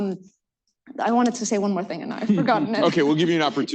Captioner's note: laughs